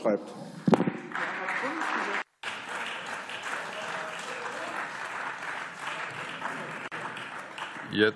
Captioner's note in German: Beifall